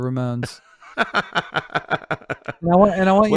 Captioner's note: laughs